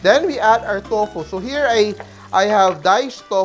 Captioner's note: sizzle